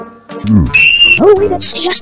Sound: screams calmly

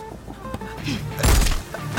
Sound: gunshot

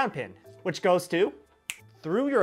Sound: finger Snap!

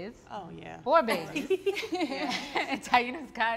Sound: all laugh

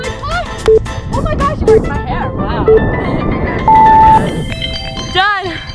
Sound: countdown beeps final three numbers and buzzer sounds

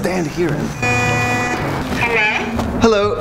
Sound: door bell

